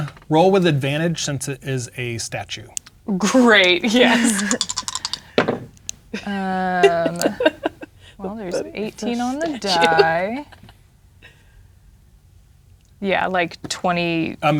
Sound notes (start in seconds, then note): 4.3 dice rattling; 4.3 dice rolling; 6.1 laughing; 9.7 talking quietly